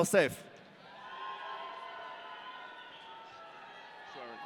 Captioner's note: audience cheering